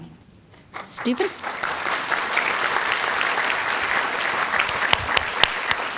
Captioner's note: audience applauding